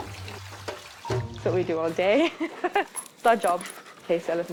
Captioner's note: laughs